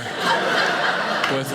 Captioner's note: audience laughing